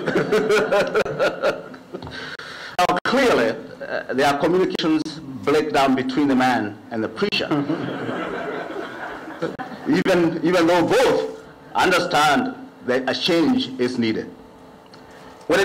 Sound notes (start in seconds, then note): 0.0 laughter; 7.4 laughter